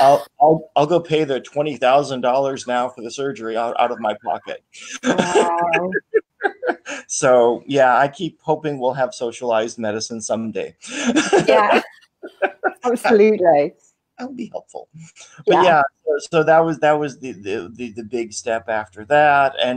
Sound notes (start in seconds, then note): 3.4 laughs; 10.8 laughs